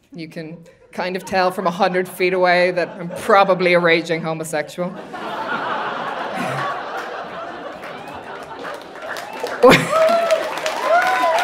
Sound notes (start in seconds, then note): 5.2 audience laughing; 5.6 audience applauding